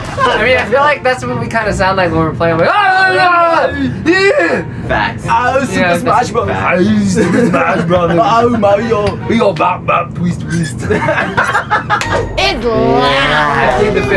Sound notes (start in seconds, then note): 2.8 yelling; 10.6 laughing